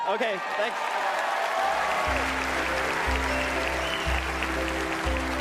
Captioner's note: applause